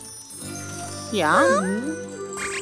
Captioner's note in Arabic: صوت استغراب; موسيقى سحرية